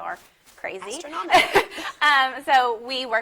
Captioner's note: laughs